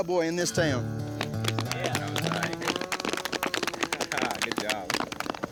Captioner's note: applause